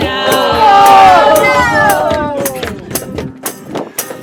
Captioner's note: sad noises